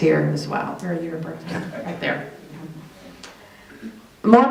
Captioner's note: chuckling